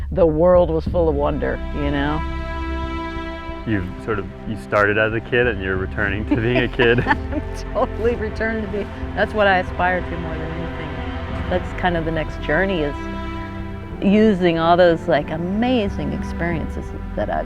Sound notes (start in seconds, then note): 4.8 chuckling